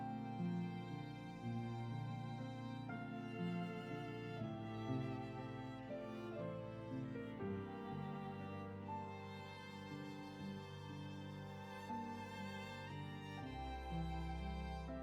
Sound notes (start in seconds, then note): none